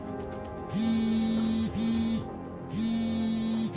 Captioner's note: phone vibrates